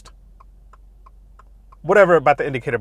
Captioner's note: indicator clicking